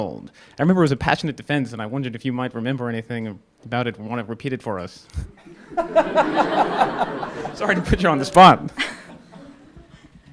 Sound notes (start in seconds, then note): 5.4 audience laughing